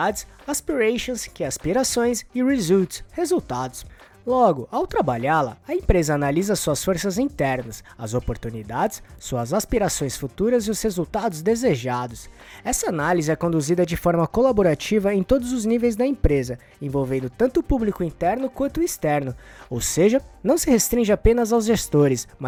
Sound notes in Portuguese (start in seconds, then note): 3.9 aspirações